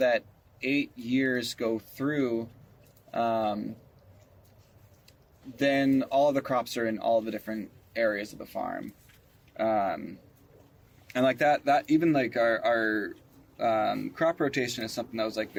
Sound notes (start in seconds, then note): none